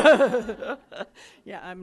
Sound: laughs

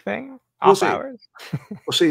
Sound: laughs

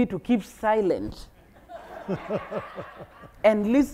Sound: audience laughing

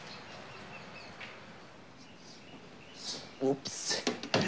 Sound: birdsong

